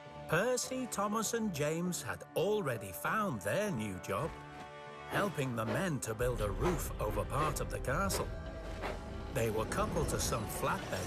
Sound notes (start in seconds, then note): none